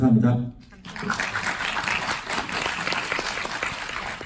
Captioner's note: clapping